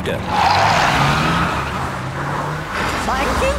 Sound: tires screeching

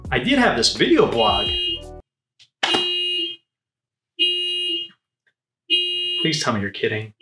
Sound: car horns blaring

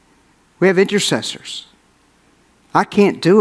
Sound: none

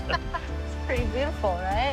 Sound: both laugh

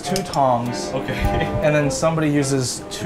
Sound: laughs

